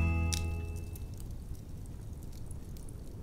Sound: fire crackling

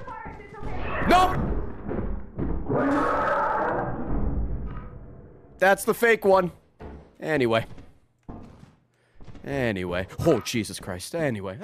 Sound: monster noises

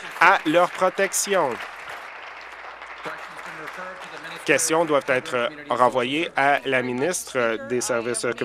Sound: applause

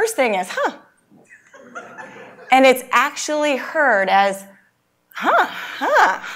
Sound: laugh

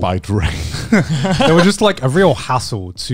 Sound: everyone laughs

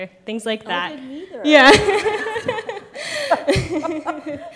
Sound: laughing

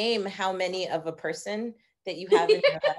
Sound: laughing

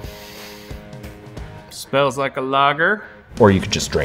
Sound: sniffs

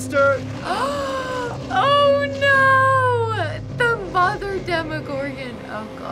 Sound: gasps

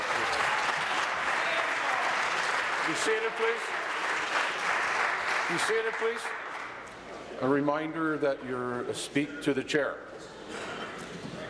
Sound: applause

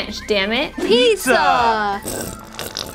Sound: voiceover; squirting

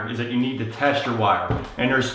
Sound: none

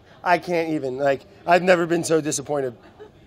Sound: laughs

